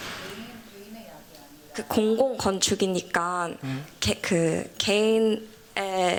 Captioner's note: non-english speech